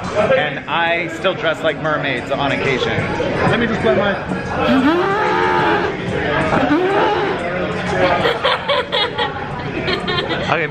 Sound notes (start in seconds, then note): 4.6 makes elephant trumpeting sounds; 8.2 laughs